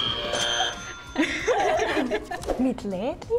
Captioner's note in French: Buzzer; Rires